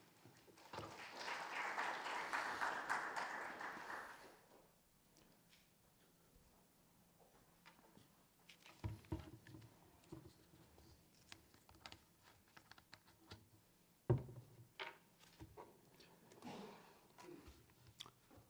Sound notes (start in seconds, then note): 0.5 audience clapping